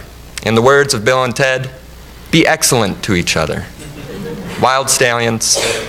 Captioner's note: audience laughs